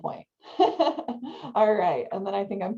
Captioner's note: laughs